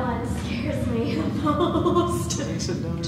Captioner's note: laughter